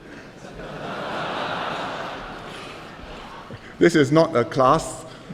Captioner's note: laughter